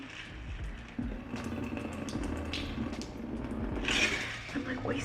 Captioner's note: water dripping; ice rattling